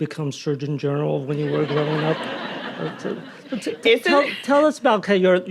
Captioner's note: audience laughing